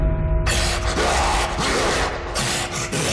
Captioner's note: inhuman growling